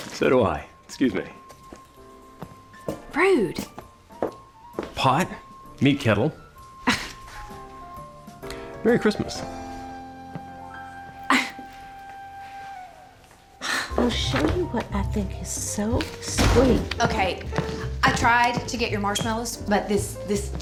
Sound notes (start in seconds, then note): 6.8 scoffs; 11.1 scoffs; 16.3 door opens, closes